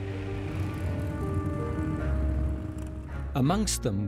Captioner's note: engines humming; gentle music